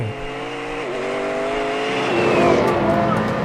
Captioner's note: engine roaring